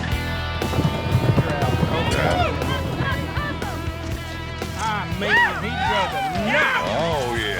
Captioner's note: cheering